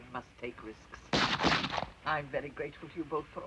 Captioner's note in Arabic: طلقات نارية